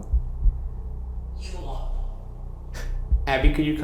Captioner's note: automated Voice